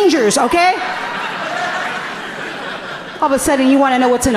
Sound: audience laughing gently

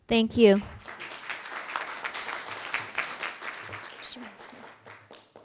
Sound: audience clapping

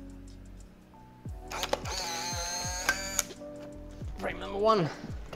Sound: camera grinding

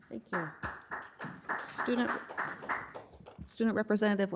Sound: group clapping

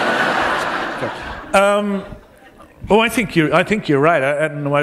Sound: laughter

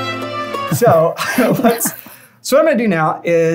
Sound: laughter

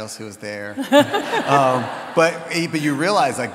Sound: audience laughs

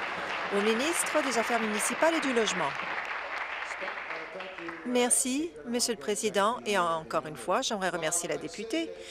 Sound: applause

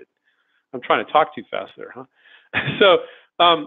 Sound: laughs

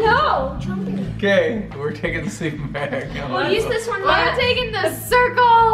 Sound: laughs

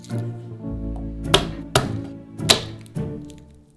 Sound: knife slamming

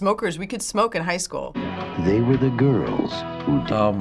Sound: voice-over

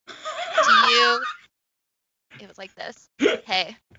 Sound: laughs

